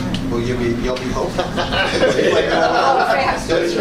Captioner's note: laughter